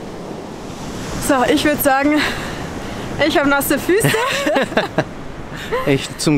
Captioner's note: laughter